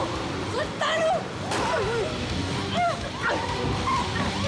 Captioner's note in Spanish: sonido de sirenas